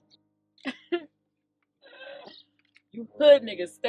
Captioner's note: laughing